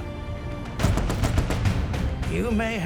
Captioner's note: voiceover; guns firing